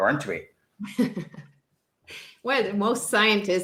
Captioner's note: laughs